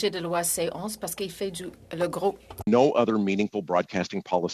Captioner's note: speaking french